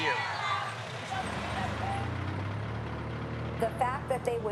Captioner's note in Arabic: هدير محرك السيارة